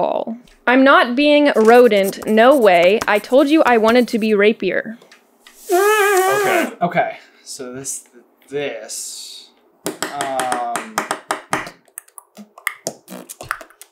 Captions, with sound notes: [blows raspberry into hand] Okay. Okay. So this... this. [tap tap tap ta tap tap tap ta ta tap tap tap] [fairly impressive tongue clicking and popping sounds]